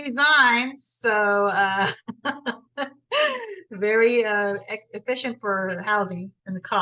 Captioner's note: laughs